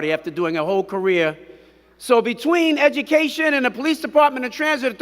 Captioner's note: none